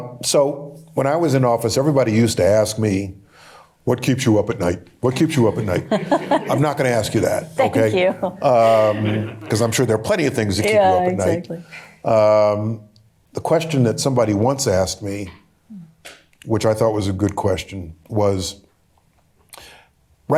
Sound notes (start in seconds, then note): 3.4 mockingly; 5.1 laughter; 8.1 chuckling